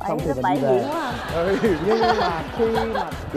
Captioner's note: laughing